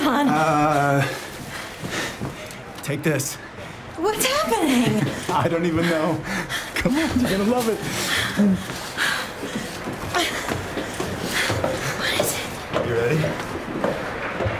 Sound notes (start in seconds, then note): 4.6 laughs